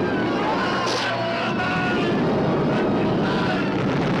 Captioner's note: all screaming